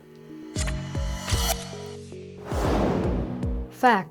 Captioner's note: logo whooshing